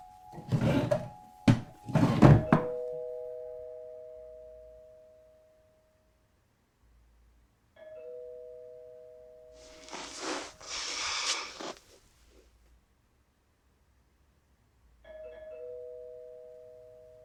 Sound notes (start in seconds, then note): 0.3 drawer thudding; 2.6 doorbell ringing